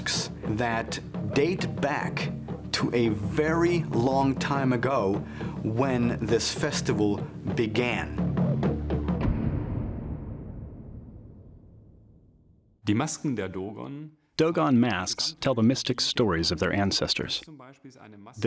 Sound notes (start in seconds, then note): 13.2 non-english speech